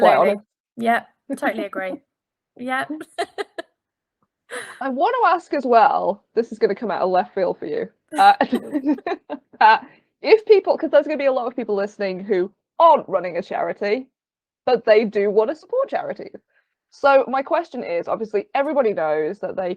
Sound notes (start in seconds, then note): 3.0 laughing; 8.2 both laughing